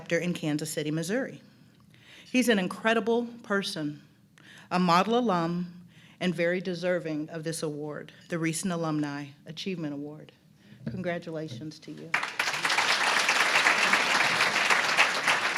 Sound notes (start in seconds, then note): 12.1 applause